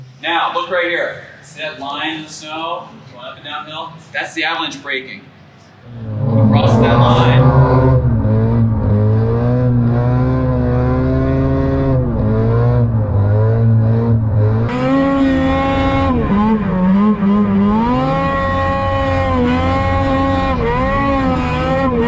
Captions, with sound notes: Now look right here, see that line in the snow Winding downhill? That's the avalanche breaking. Across that line (snowmobile engine whirring)